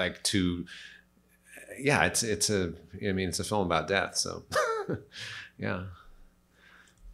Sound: laughs

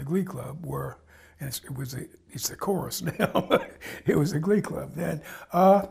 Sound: laughs

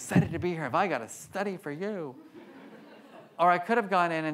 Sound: audience laughs

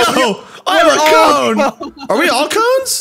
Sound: laughing

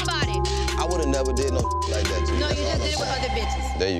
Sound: beep

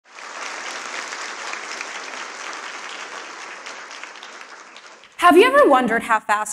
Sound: applause

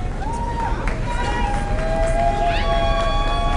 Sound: applause

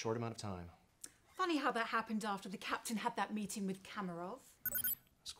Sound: communicator still chirping

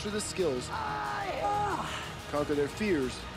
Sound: shouting

